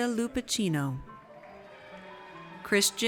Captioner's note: audience cheers